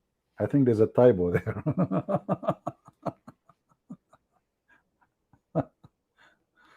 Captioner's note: Ketawa